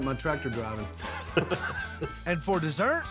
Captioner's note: chuckling